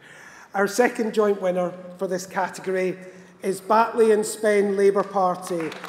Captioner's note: applause; cheering